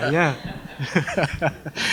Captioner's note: laughter